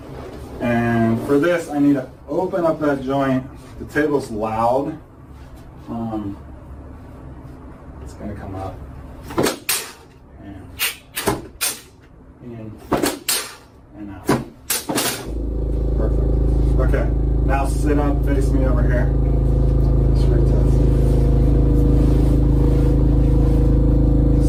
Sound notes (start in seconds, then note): 4.5 mechanical sounds